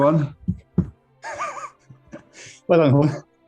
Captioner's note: sniggering